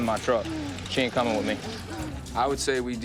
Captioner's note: breathing heavily